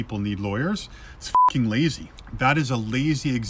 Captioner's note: beep